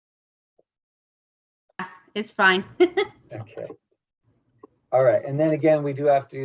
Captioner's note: laugh